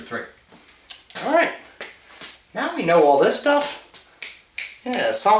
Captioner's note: fingers snapping